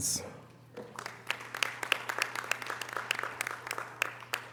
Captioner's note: audience applause